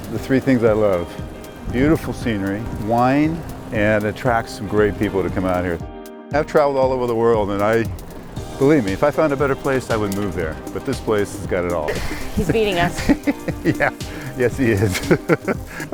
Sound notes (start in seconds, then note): 11.8 laughing